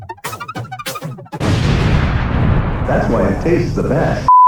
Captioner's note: explosion